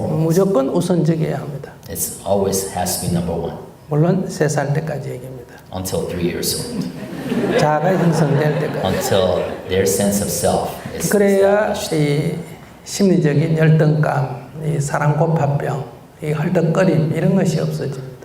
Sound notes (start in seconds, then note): 6.7 audience Laughter